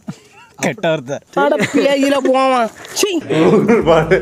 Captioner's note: talks in a local slang